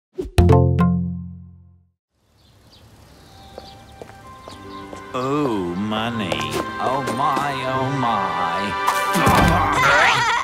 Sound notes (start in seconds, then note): 2.2 bird chirping; 9.0 laughs